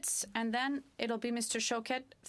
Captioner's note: speaking French